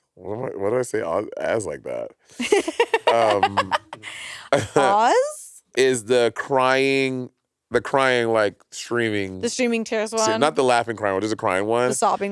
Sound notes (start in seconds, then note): 2.4 laughing